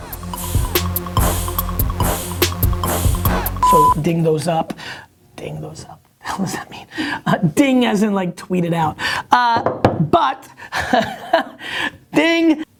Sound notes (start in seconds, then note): 0.0 rhythmic hip-hop instrumental music; 10.8 laughs